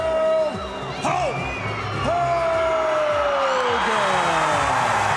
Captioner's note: crowd cheerin